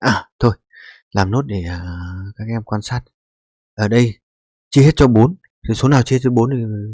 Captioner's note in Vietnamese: khịt mũi